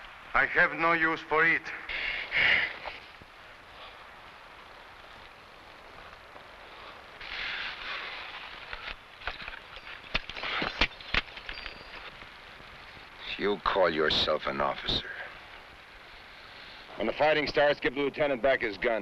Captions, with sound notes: I have no use for it. (boot smashing) (pistol rattling) - You call yourself an officer. When the fighting starts, give the Lieutenant back his gun.